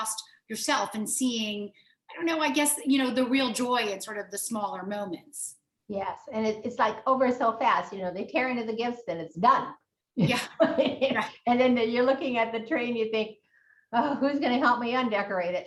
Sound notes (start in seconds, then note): 11.2 laughs